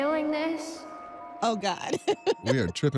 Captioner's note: laughs